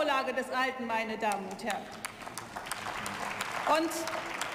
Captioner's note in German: Beifall